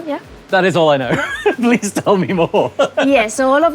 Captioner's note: laughs